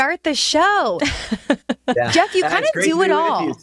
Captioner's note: host laughs